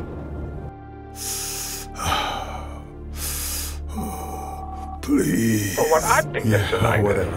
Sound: phone rings

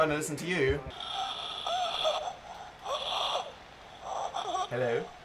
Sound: moaning from telephone

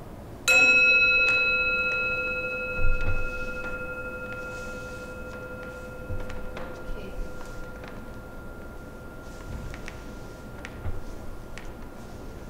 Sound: gong

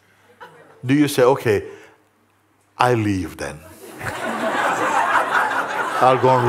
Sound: laughter

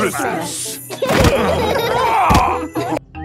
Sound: laughing

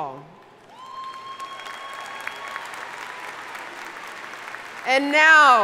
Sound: audience cheering and applauding

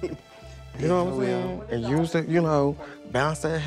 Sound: laughs

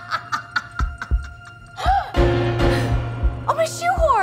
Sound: Truman laughs; heart beating

